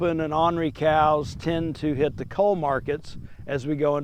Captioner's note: wind blowing